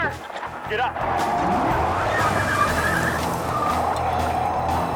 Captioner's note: engine revving